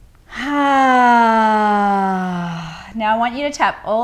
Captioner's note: sighing deeply